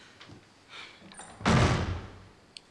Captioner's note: door slams